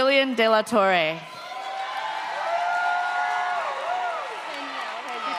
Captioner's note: audience cheers